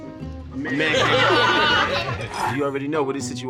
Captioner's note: laughter